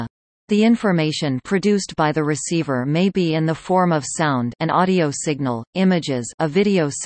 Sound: an audio signal

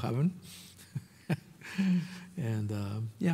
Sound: laughing

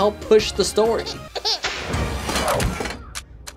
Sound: baby cries

